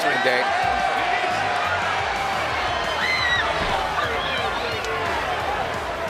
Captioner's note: applause